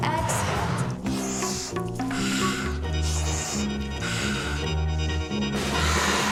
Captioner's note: inhaling, Exhaling; exhales